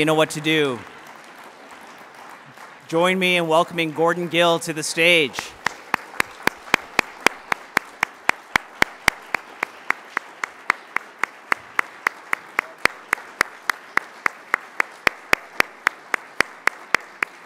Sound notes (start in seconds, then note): 5.6 applause